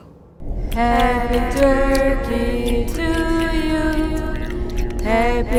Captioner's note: flesh squelching